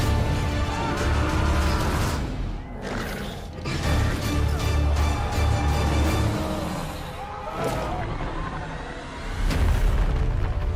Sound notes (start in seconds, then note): 2.8 creature growls; 4.6 music intensifies